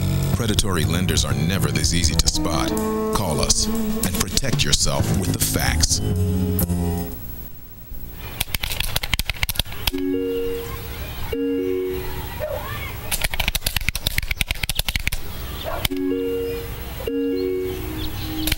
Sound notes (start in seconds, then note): 8.4 computer keys clicking; 17.1 ominous music